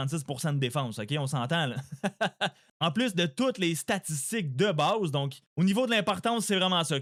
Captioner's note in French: rires